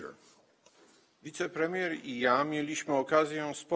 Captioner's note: speaking polish